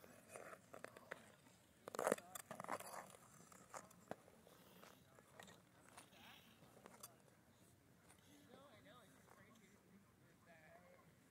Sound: skates scraping

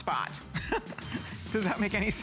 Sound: laughter

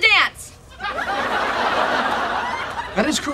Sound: audience laughing

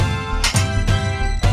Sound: door opening

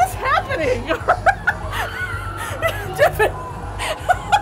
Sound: laughing

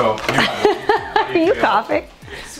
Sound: laughs

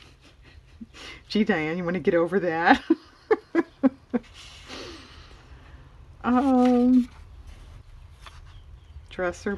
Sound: laughs

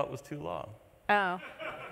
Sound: laughter

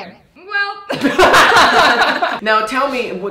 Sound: laughing

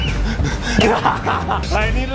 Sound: laughing

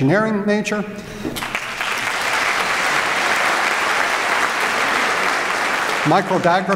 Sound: applause

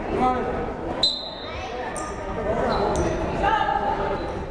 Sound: whistle blows

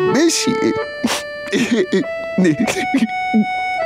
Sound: sobbing

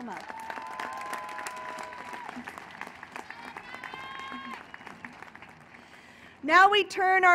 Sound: applause and cheering

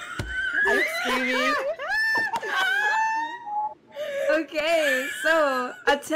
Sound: losing it some more

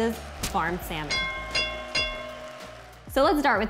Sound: bell ringing

